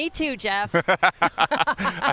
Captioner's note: laughs